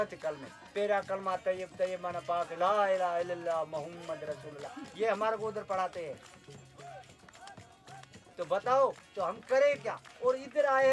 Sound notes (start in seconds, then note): 3.1 Arabic